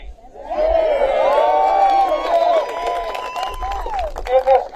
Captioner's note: applause